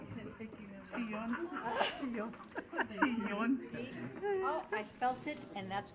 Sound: women chuckling

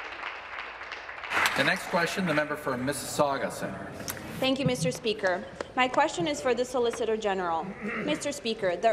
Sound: applause

